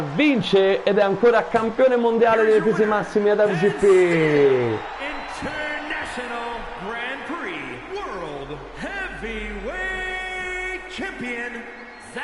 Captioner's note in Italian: Applauso